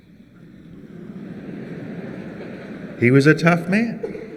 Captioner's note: grumble in the crowd